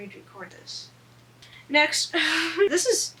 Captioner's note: laughs